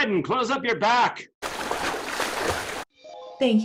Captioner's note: splashing